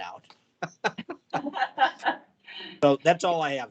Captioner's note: chuckling